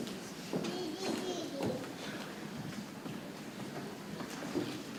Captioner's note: people chattering softly